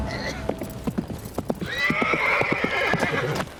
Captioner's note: horse galloping; horse whinnies